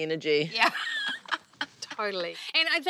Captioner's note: laughs loudly